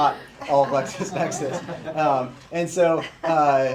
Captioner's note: laughter